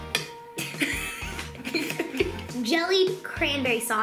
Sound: giggles

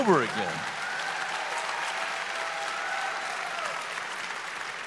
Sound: audience applause

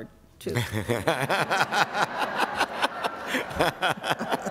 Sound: laughter

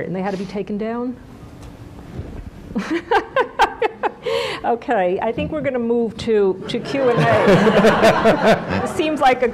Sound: laughs; laughter

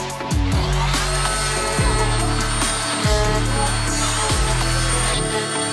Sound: plaster cutter whirring

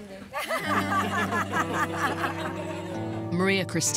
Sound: laughter

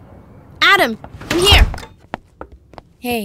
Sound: door opens

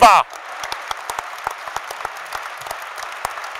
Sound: applauds

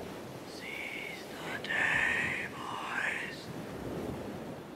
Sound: whisper

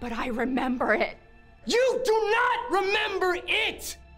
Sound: yelling

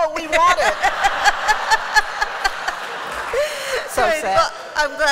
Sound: laughter

